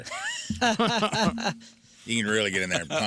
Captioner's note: laughing